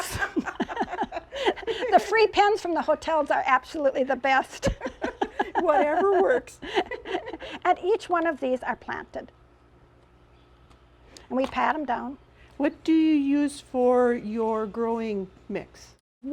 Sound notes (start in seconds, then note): 0.0 laughter; 4.5 laughs